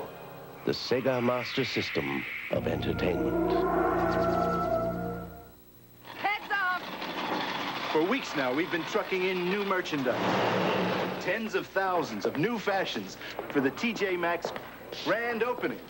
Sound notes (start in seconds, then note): 4.1 spacey sound; 10.5 truck engine